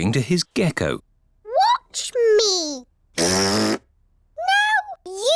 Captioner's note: blows raspberry